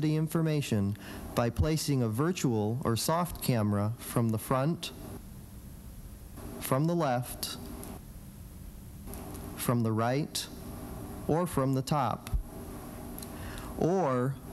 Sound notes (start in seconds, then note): none